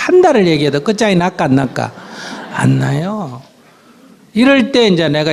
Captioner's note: audience Laughter